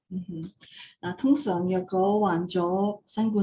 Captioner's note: non-english speech